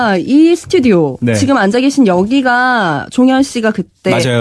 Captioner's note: radio